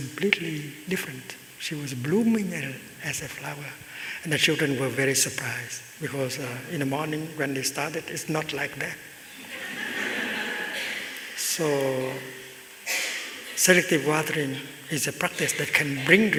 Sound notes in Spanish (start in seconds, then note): 9.3 Risas